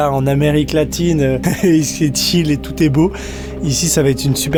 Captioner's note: laughs